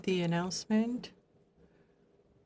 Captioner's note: speaking in French